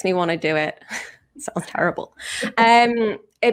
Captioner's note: chuckles